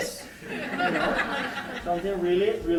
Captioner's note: laughing